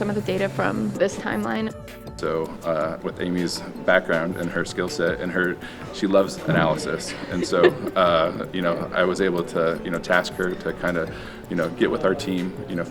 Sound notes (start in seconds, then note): 6.4 laughter